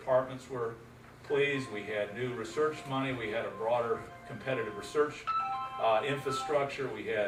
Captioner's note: phone going off